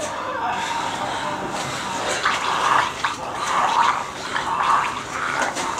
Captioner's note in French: Le monstre continue à se débattre et à grogner